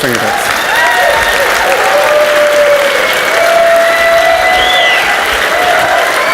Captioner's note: audience cheers and applauds